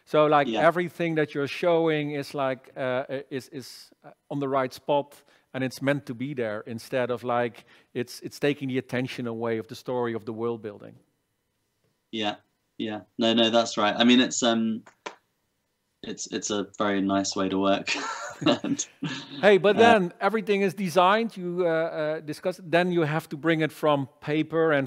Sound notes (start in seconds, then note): 17.8 laughs